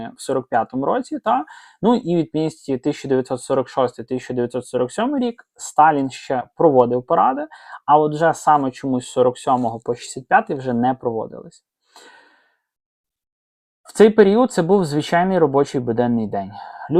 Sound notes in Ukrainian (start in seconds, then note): 11.9 сопіння